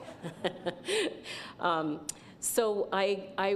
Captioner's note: laughter